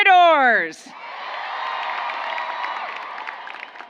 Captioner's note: applause